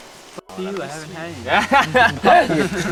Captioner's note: laughter from all